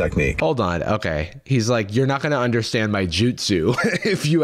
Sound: laughs

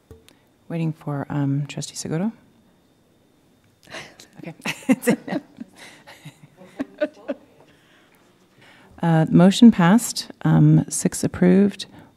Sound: laughter

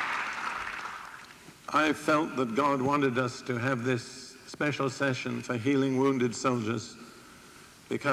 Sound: applause

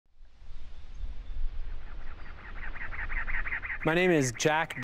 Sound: desert sounds

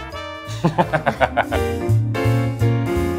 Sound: laughing

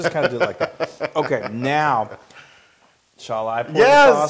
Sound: laugh

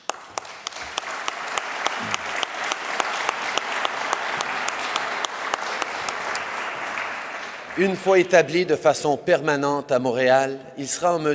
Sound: applause

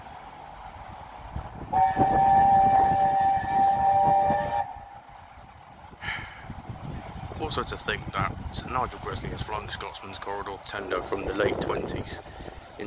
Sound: sigh of relief

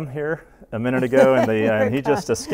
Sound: laughs

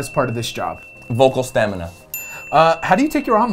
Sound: bell dings

